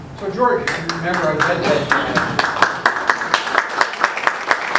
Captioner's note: audience applauds